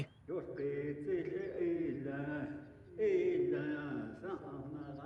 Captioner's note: chanting continues